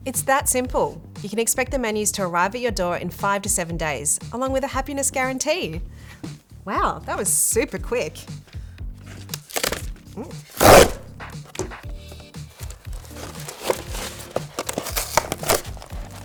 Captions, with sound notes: It's that simple. You can expect the menus to arrive at your door in five to seven days, along with a happiness guarantee. Wow, that was super quick. (paper rustles) (light pop music)